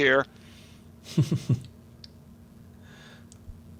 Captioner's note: laughing